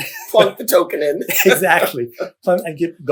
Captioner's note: laughter